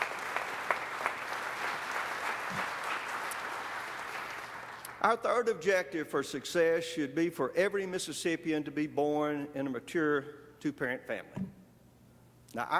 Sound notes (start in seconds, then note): 2.9 applause